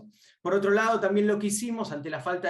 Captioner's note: speaking Spanish